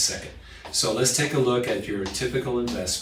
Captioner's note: marker pen tapping